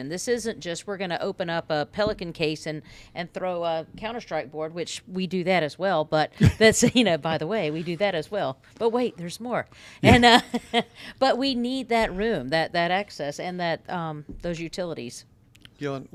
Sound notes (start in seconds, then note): 10.0 laughs